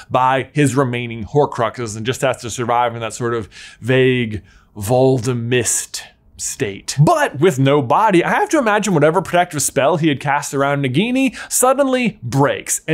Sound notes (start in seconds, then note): none